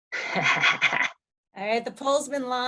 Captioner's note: laughs